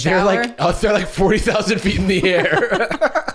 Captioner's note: laughing